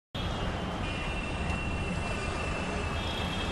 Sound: traffic and city noises

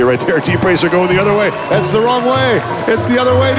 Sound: audience sighs

